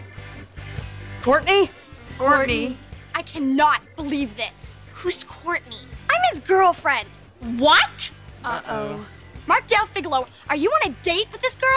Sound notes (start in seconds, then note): none